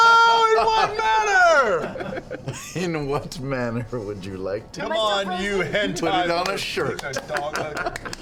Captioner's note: laughing